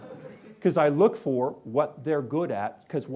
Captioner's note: laughing